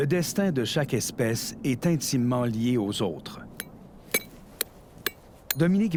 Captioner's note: hammer blows